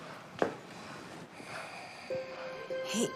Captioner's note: rafael breathes deeply